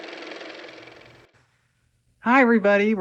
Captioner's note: car motor